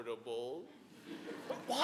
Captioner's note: audience laughing